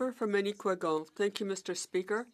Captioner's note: speaking French